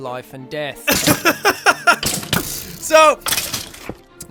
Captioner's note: laughs